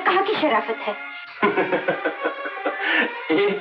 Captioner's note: Laughing